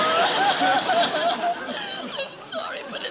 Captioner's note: sobbing